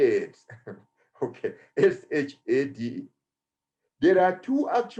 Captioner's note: chuckles